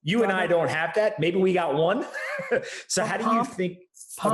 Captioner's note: Pomp laughs